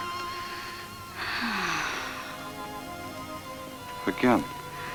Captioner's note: Ellen sighs